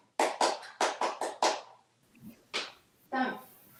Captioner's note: hands clapping